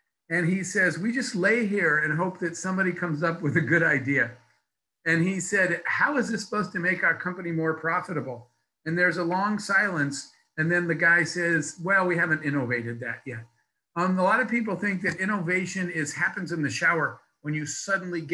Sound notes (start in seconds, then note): 3.3 laughs